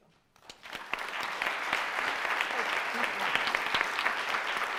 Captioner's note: crowd applauds